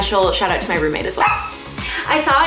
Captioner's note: dog barks